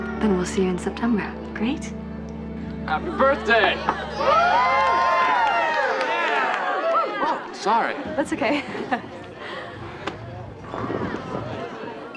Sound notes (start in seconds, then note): 3.0 all cheering